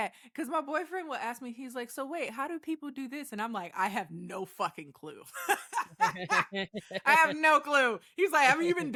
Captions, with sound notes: because my boyfriend will ask me, he's like, so wait, how do people do this? And I'm like, I have no fucking clue. (laughs) I have no clue. He's like, have you been